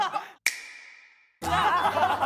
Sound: slap

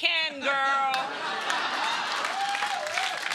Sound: laughter and applause

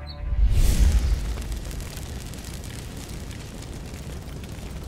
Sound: fire Crackling

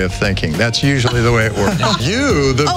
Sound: all laughing

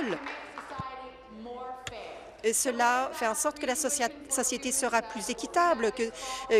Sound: applause

